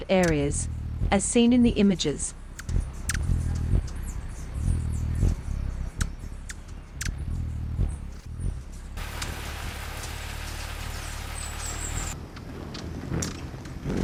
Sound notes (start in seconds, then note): 2.4 birds chirping; 2.5 bird's wing flapping